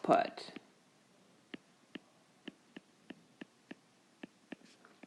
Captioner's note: keyboard Tapping